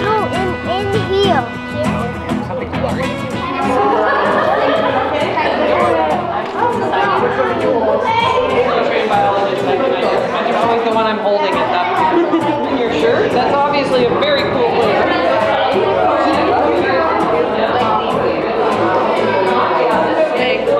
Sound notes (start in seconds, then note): 4.2 excited chatter; 14.8 excited chatter